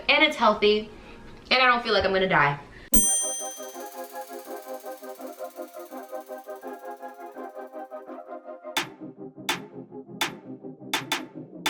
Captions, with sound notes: and it's healthy, and I don't feel like I'm gonna die. (sharp chime noise) (upbeat music)